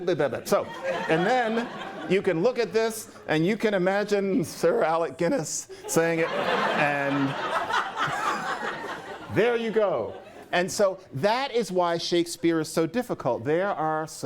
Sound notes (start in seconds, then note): 5.8 laughter